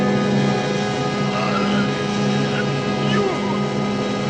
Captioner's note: groaning